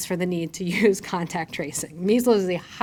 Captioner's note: chuckles